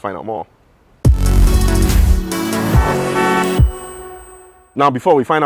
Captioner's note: intro noises